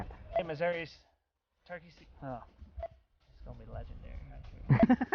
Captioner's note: laughter